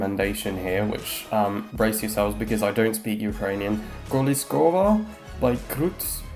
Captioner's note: hesitantly